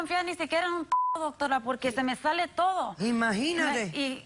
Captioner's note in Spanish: Bip